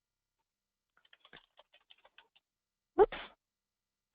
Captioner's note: computer keyboard keys tapping